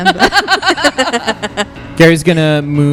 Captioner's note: laughs; chuckle